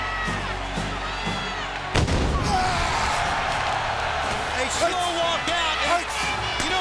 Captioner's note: applause